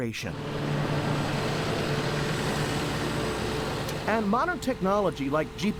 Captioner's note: tractor Sounds